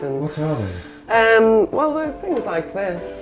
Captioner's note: voiceover